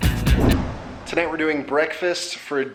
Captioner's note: air whooshing